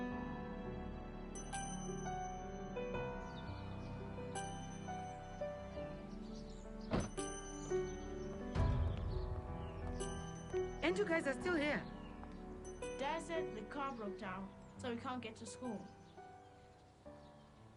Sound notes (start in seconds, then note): 4.4 birds chirping; 6.9 car door closes